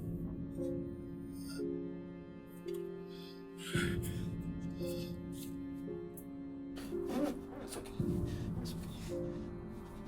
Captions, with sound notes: (gasping) - It's okay, it's okay.